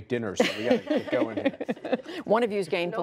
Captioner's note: laughter